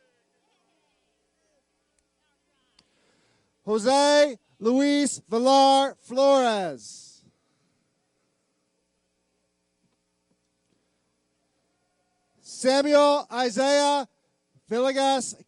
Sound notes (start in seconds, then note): none